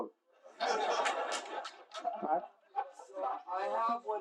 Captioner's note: смех